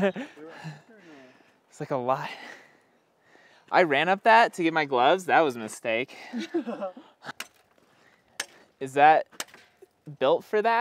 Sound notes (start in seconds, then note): 0.1 pained laughter; 7.8 chipping sounds